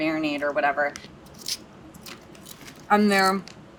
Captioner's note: crunch sound